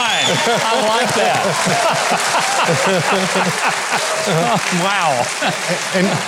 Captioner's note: crowd cheering